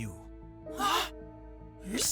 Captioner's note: both gasp